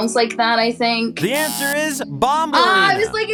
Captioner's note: buzzer buzzing